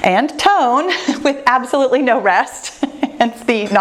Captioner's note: laughs